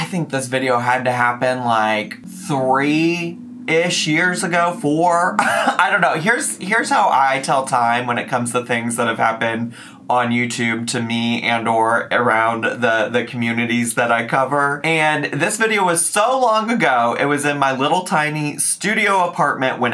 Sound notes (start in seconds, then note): 5.4 laughs